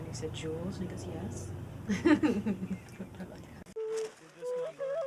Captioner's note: laughs; ethereal music